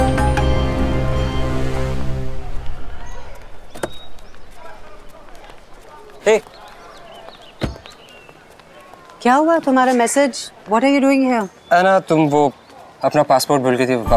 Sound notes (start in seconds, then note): 3.7 car door opens; 7.6 car door closes